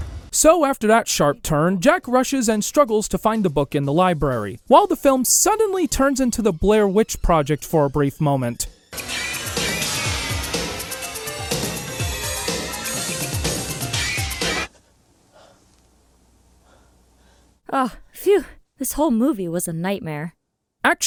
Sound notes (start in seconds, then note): 8.7 suspense music; 14.6 silence with some heavy breathing